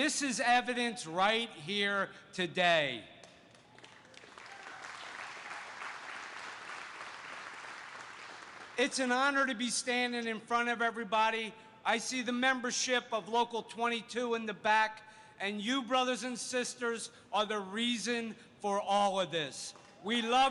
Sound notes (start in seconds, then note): 6.9 applause